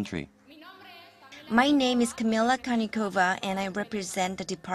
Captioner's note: Spanish